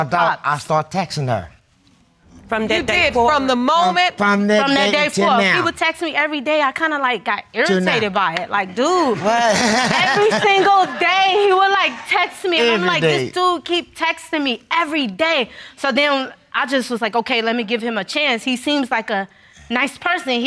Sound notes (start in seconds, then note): 9.0 audience laughing